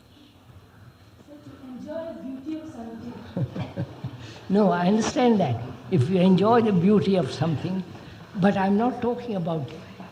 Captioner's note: laughs